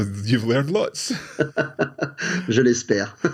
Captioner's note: chuckles